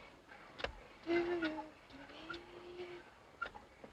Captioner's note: Anne humming